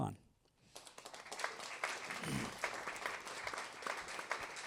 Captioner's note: applause